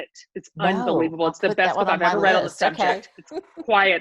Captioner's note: laughs